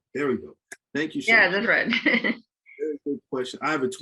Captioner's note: laughs